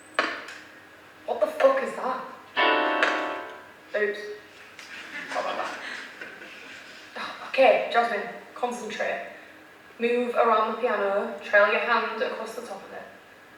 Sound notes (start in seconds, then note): 7.6 sighs